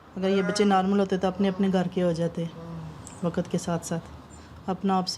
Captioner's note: speaking in foreign language